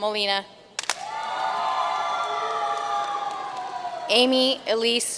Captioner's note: audience cheering and applauding